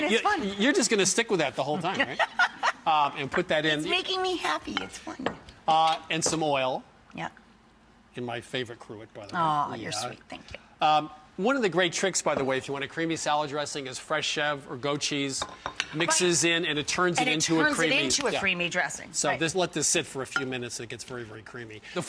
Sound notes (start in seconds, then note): 1.8 laughs